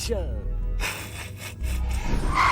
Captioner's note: snickers